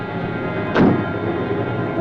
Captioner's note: car door slams